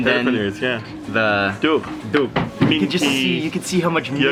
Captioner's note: speaking in foreign language